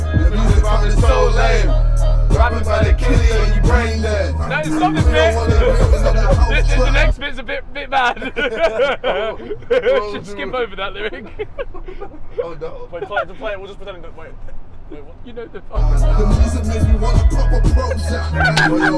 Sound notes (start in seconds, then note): 8.0 laughing